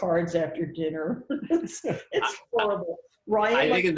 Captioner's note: laughs